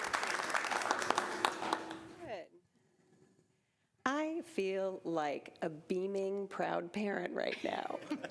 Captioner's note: applause